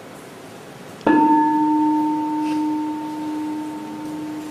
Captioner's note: bell